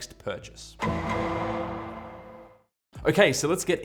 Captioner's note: dramatic sound